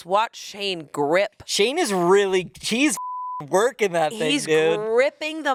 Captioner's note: beep